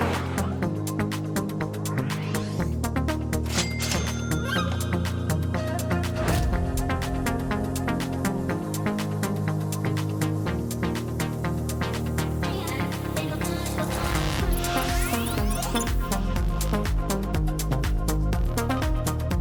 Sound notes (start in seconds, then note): 3.5 register cha-chings; 6.0 intense swipes